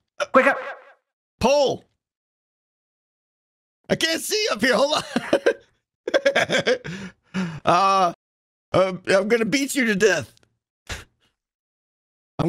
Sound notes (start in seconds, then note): 6.1 laughs